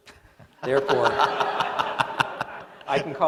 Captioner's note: laughter